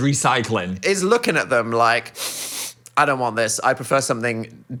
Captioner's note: sniffs